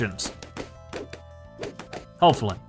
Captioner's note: balloons popping